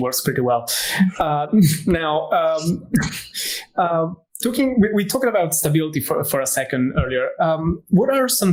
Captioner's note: laughs